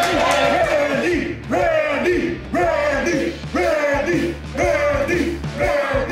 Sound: crowd

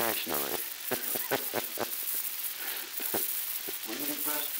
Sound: laughter

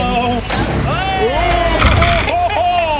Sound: loud crunch; all gasp and exclaim; laughs

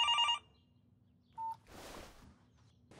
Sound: phone ringing; phone beeps

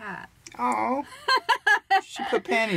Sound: Tina laughs

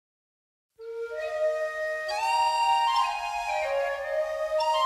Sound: whistles blowing

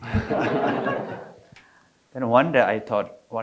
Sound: audience laughing

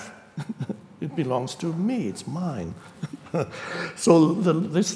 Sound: chuckling

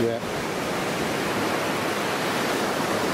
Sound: waves crashing

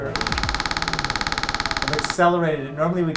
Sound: machine clicking

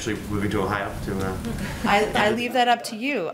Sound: laughter

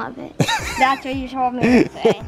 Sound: laughs

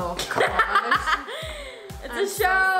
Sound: laughs

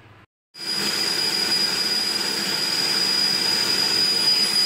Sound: vacuum whirring

